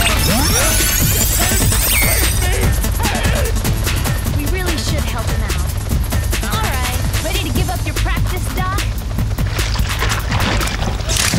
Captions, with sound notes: [grunting] Help. Help me. Help! We really should help him out. All right. Ready to give up your practice, doc?